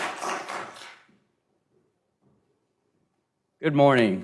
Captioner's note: applause